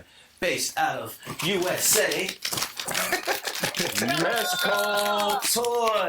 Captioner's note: all laughing